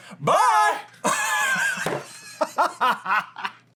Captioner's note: laughter